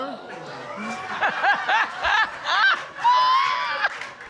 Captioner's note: laughing